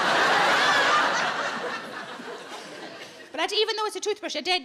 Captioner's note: audience laughs